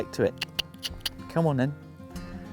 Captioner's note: clicks tongue